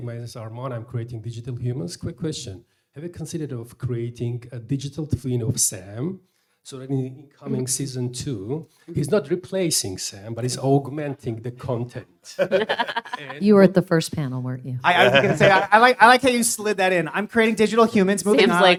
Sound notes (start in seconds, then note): 12.3 panelists laugh